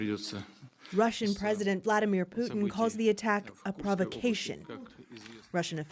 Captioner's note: speaking alternate language